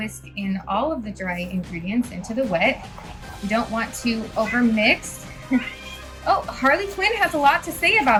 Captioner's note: meow